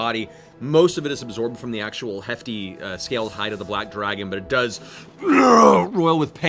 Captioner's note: unhappy groan